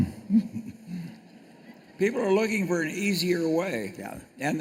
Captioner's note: laughs